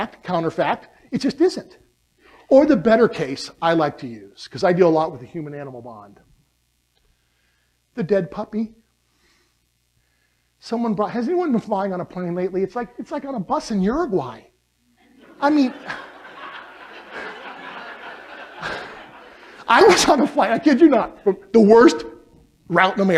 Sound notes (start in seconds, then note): 15.0 laughter